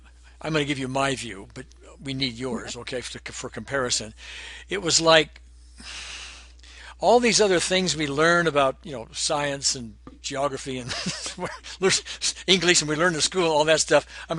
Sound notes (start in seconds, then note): 5.6 exhaling; 11.0 laughing